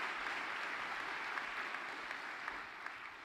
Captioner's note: applause